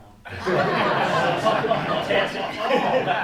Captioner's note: laughing